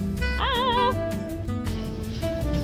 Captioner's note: melodic scream